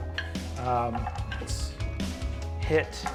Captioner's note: die rolls